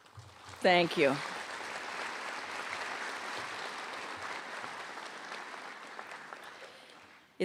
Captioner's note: applause